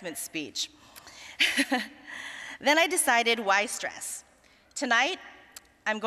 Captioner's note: chuckling